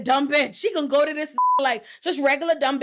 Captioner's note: beep